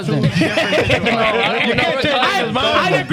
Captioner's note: laughing